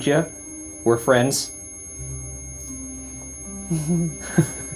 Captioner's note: EMF beeping; Ryan laughs